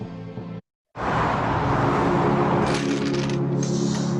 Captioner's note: wind whooshing